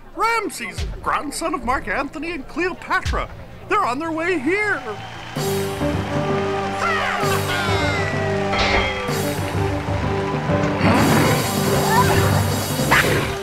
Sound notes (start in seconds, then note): 6.3 קהל מריע; 9.5 מוזיקה דרמטית